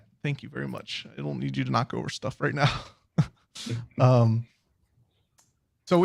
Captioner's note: laughs